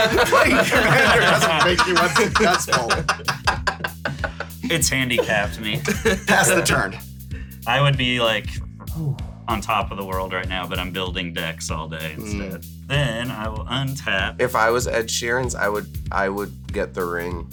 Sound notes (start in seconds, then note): 3.4 continue laughing